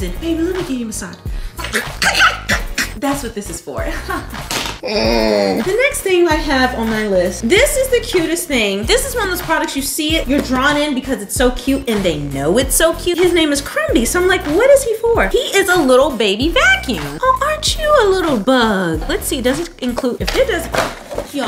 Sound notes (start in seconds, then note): 4.8 laughs